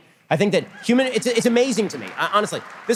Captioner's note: audience applause